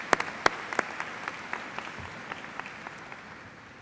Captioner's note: applause